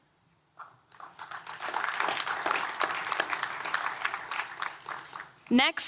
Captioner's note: applause